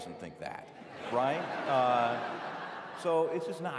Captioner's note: laughter